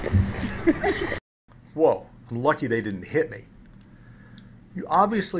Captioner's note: laugh